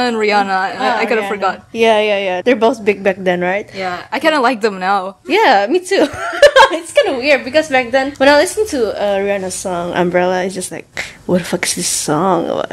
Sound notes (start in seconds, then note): 6.0 laugh